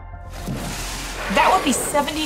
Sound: background music; whale spouting water noise

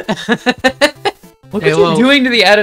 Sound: laughter

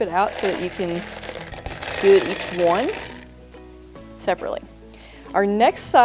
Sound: candy rattles

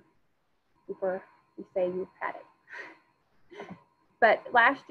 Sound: chuckles

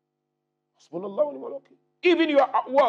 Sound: Arabic

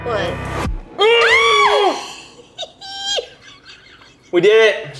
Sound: both screaming

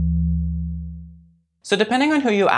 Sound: trippy sounds

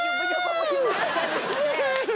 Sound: audience laughs

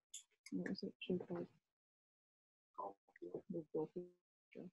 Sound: Kara mumbles

